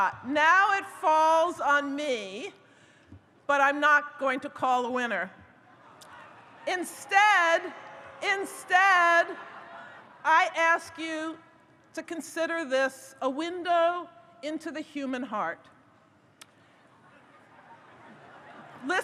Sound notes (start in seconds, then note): 7.2 audience booing; 17.0 audience laughs